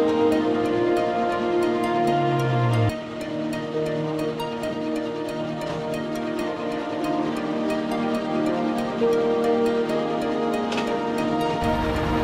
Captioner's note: sound of boat